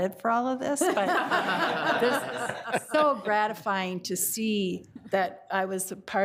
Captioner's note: all laughing